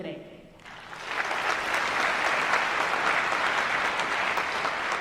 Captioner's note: applause